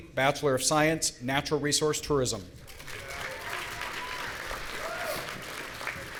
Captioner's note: audience cheering